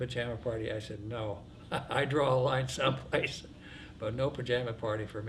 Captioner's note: laughs